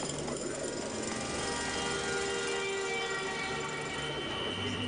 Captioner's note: jackhammer pounding in distance; car horns honking